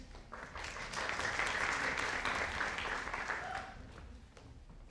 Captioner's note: audience applauding